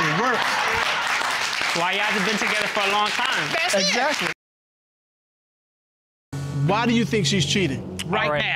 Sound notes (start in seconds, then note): 0.0 audience applauds